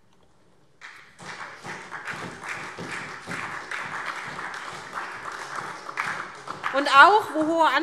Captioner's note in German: Beifall SPD und DIE LINKE